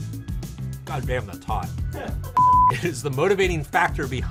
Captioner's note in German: piepst